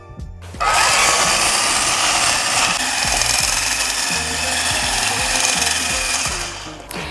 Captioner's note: electric whisk